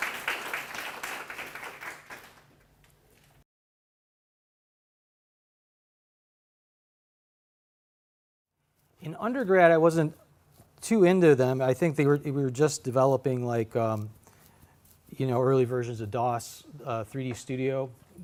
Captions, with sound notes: [ APPLAUSE ] IN UNDERGRAD I WASN'T TOO INTO THEM, I THINK THEY WE WERE JUST DEVELOPING LIKE YOU KNOW,